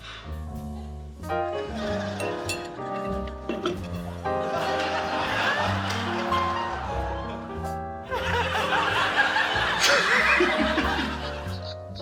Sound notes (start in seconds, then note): 1.7 laughter; 8.1 laughs; 9.8 chuckles